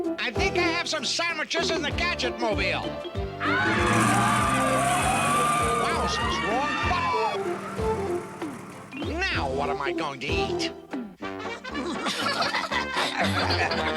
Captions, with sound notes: I THINK I HAVE SOME SANDWICHES IN THE GADGETMOBILE. [TIRES SQUEAL] WOWSERS! WRONG BUTTON! NOW WHAT AM I GOING TO EAT? [LAUGHING]